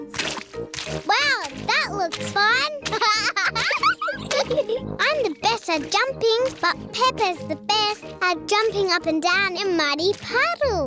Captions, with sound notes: Wow, that looks fun! (LAUGHS) I'm the best at jumping, but Peppa's the best at jumping up and down in muddy puddles.